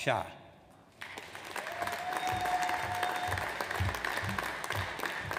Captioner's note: audience applauds